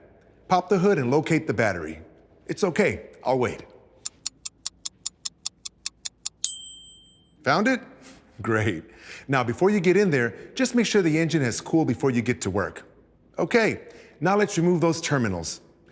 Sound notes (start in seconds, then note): 4.0 ticking; 6.2 ding